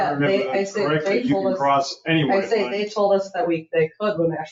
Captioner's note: people chattering